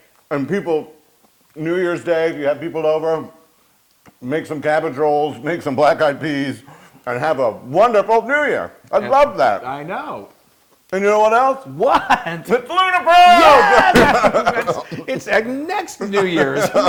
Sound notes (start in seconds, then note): 13.3 laugh